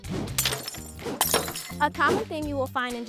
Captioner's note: lively music; glass shattering